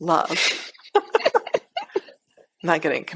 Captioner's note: laughs